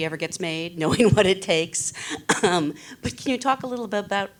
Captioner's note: laughing